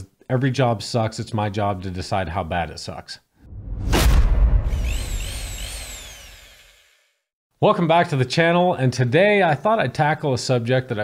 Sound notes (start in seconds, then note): 4.7 drill whirring